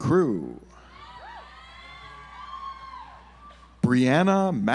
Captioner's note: audience applauds